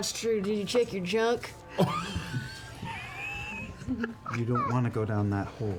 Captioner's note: laughter